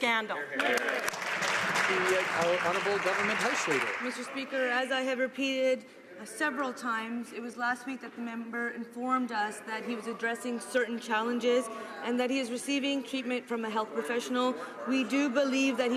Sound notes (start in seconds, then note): 4.5 some Applause